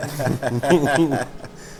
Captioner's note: laughter